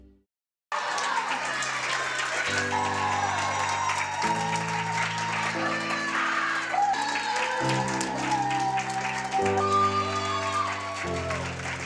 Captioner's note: cheering